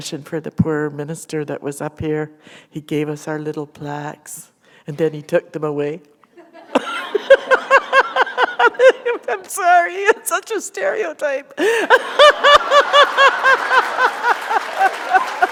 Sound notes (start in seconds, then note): 6.3 laughter; 11.6 laughter; 12.4 applause